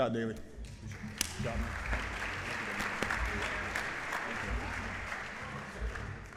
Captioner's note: applause